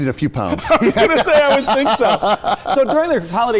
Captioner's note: laughing